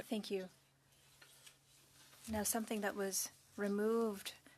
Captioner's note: speaking French